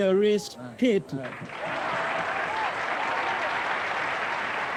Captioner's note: crowd applauding